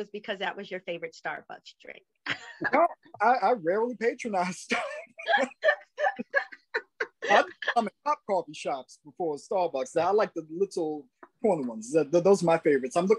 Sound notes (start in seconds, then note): 4.7 laughing